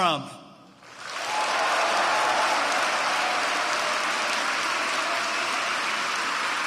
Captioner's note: applause